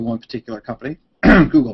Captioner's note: clears throat